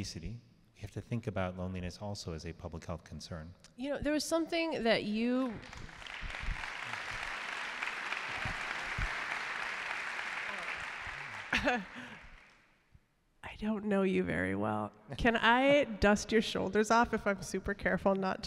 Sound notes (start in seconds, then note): 9.9 applause